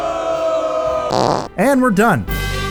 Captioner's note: booing